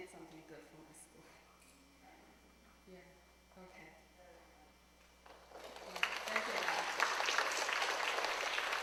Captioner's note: applause